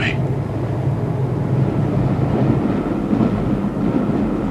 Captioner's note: train rumbling